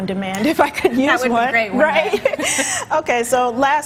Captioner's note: both laughing